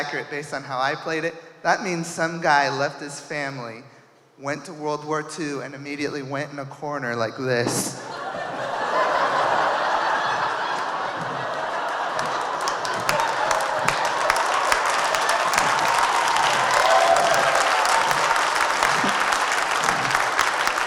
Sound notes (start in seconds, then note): 8.0 audience cheering; 8.0 audience laughing